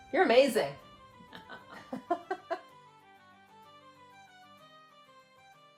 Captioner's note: claps hands; laughs